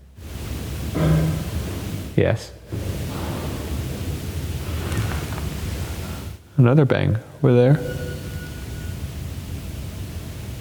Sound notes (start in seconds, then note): 0.3 object clunks; 3.2 knock thuds; 8.9 door squeaks